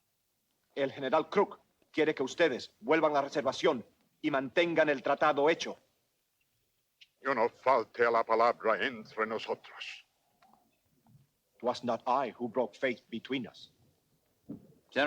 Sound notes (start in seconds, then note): 0.8 Ramirez speaks Spanish; 7.3 Victorio speaks Spanish